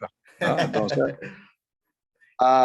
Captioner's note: laugh